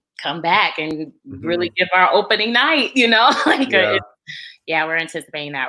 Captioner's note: laughs